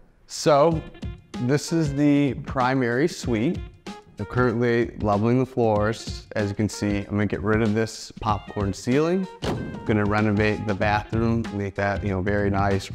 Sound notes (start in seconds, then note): 9.4 ceiling clinking